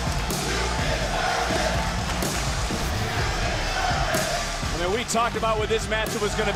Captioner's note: crowd chants "you deserve it"